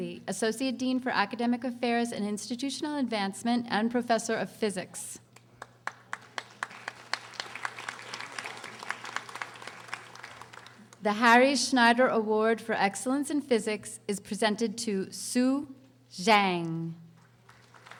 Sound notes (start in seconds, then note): 5.6 audience applauding; 17.2 audience applauding